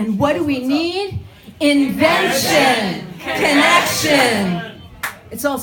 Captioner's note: crowd chants